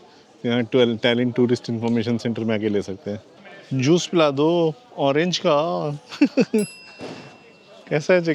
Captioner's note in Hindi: हंसी